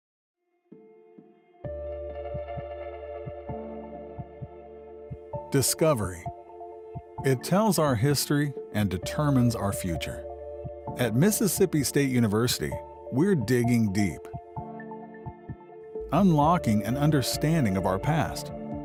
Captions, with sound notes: (mellow music) - [Voiceover] Discovery. It tells our history and determines our future. At Mississippi State University, we're digging deep. Unlocking an understanding of our past,